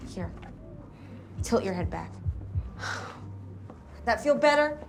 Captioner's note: sigh